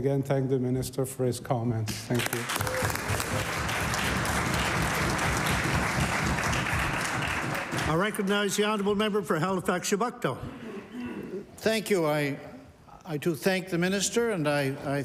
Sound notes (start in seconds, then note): 4.8 applause